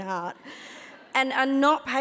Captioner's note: audience laughs